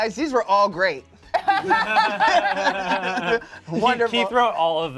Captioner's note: cast laughs